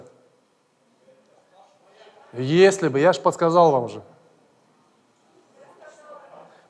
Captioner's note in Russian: голоса из зала